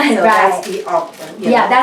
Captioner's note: laughs